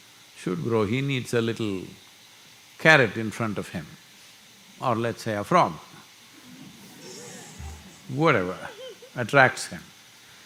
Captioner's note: few laugh